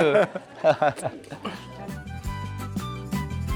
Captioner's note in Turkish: kahkaha